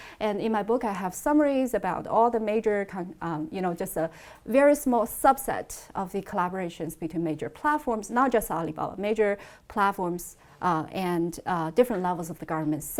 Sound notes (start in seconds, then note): none